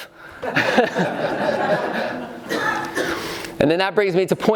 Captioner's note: laughing